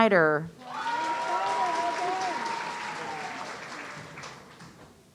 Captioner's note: audience cheering